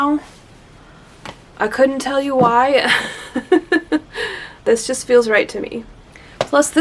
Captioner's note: laughs